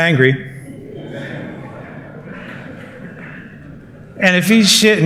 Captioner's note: laughter